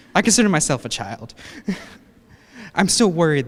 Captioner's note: laughs